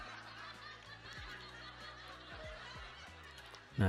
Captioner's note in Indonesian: tertawa